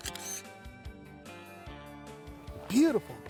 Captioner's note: camera click